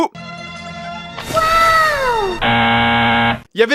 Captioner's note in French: Musique de la série; soupir érotique; Musique de la série; bruitage "buzz" erreur